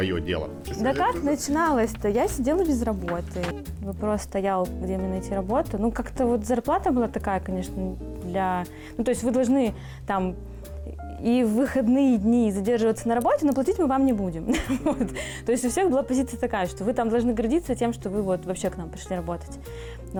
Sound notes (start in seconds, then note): 14.6 laughs